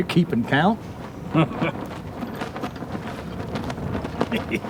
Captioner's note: laughs